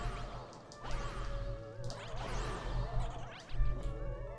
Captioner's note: gaming sounds